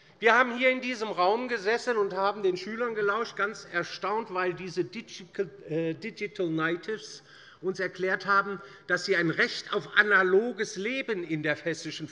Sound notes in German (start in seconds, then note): none